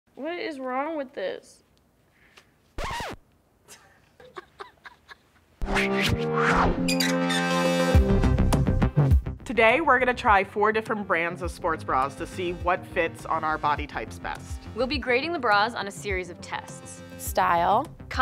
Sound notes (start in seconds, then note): 3.7 laughs; 6.6 techno music